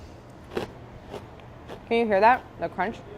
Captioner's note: crunching